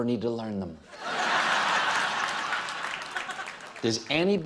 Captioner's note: laughter; applause